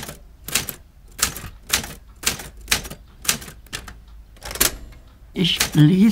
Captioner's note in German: Tippen auf einer Schreibmaschinie